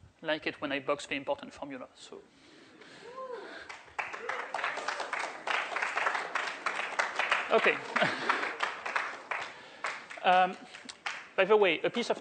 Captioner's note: applause